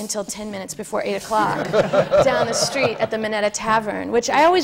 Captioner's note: laughter